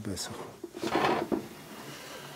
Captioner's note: clattering